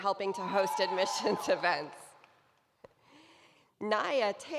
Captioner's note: cheering